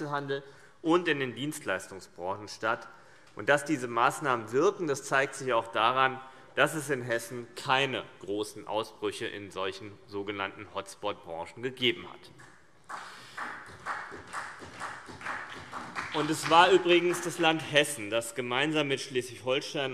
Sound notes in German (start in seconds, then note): 12.8 Vereinzelter Beifall CDU und BÜNDNIS 90/DIE GRÜNEN